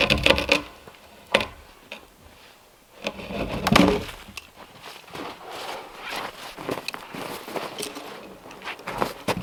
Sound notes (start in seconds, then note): 3.1 log crunching and thudding